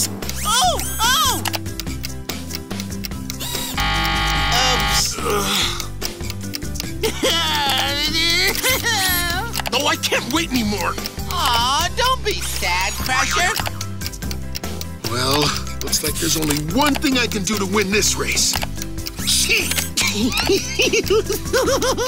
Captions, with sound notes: Oh, oh! [buzzer ringing] -Oops. -Ugh. [sobbing] Oh I can't wait anymore. Aww, don't be sad Crusher. Well, looks like there's only one thing I can do to win this race, cheat! [laughing]